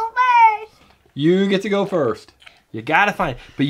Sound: voiceover

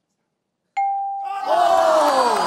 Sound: bell dings

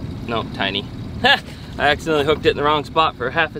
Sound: laughs

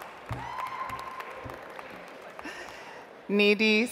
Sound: audience applauds

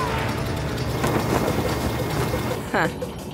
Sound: wind blowing

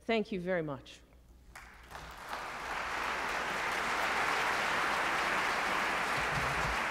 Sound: applause

